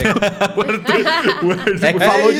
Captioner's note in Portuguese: risos